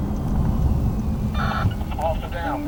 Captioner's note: radio static